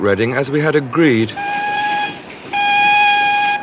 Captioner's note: horn blowing